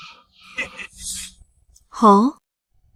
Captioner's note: chuckles menacingly